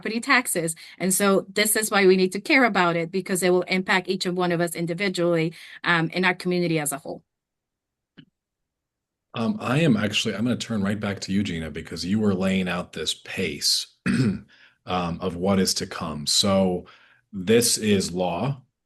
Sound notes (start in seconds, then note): 14.0 clears throat